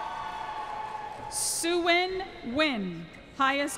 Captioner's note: cheering